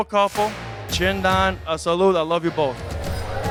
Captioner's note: speaking Italien